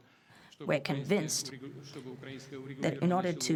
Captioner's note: through translator